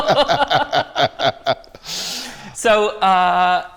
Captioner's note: laughter